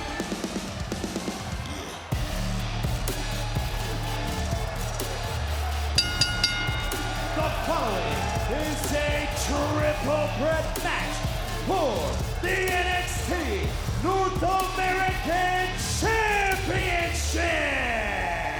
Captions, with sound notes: (bell ringing) The following is a triple threat match for the NXT North American championship.